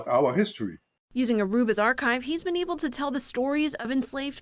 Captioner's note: voice-over